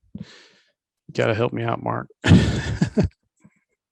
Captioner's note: laughs